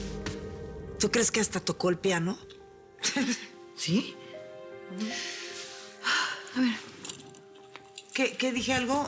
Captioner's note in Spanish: Ríe